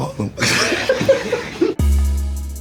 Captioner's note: laughing; soft music